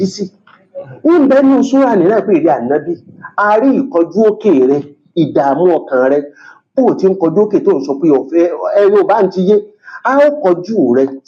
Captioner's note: reciting Arabic